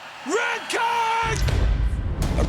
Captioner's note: guns shots